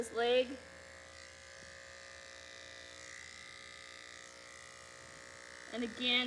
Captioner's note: clippers buzzing